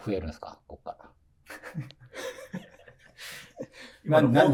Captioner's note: laughing